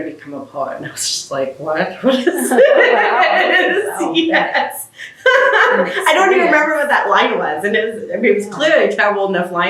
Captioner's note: laughs